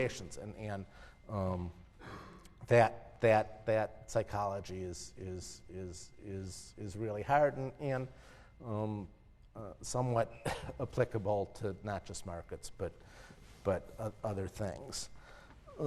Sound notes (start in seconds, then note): 10.4 cough